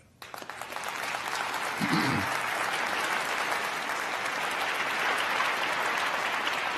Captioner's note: crowd applauding